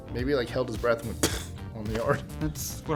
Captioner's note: pffting